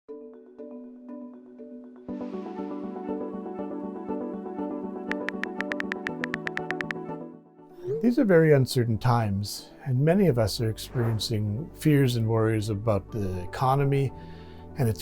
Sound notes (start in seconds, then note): 0.1 gentle light music; 5.1 keyboard clicks